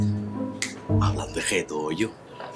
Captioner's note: snap fingers